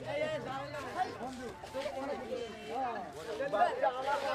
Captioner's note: Indian spoken audio